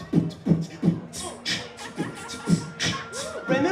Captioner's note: beat-boxing continues